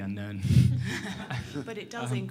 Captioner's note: laughter